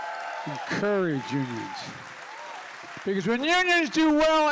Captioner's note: applause